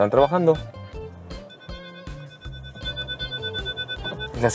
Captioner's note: alarm beeping